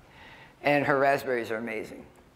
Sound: none

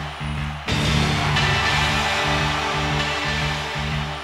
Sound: crowd cheers

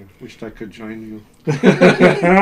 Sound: laughs

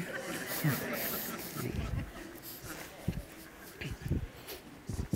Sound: congregation chuckles and laughs

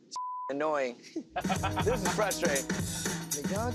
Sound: laughs

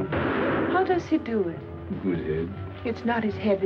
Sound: gun fires

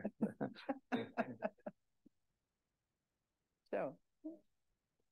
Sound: laughing

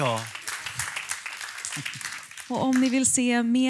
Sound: applåder

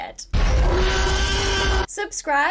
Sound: T-rex ROAR!

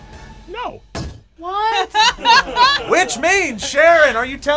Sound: group laughs

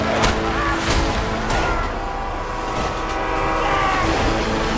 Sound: train horn blares

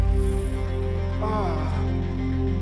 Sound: grunts

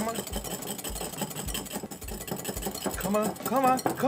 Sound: whisk dinging against the bowl

